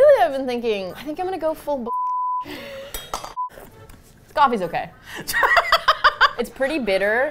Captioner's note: laughs